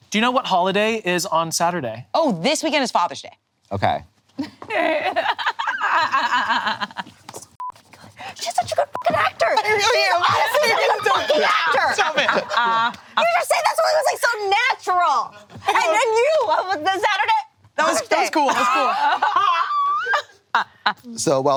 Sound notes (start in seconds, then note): 4.4 laughing; 8.9 beep